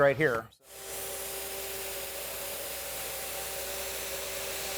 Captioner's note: sprayer hisses